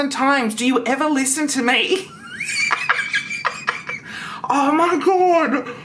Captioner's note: laughs